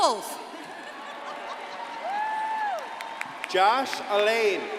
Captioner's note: crowd cheering and applauding